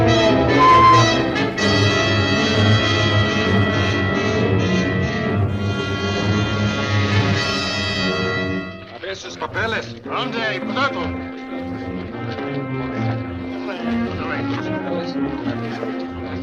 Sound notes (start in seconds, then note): 0.4 brakes squeal; 8.8 chatter in Spanish